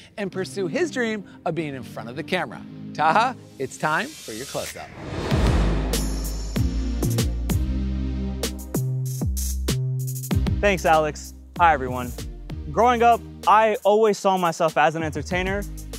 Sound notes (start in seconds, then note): 4.1 air whooshing; 6.5 upbeat music